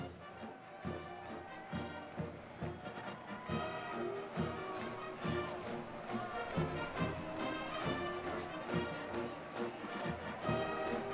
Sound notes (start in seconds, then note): 0.8 crowd cheering